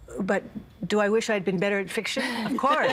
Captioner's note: all laughing